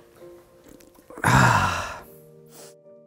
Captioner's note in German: Seufzen